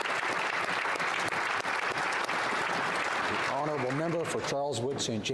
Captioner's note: applause